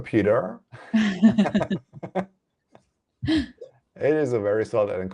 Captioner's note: laughs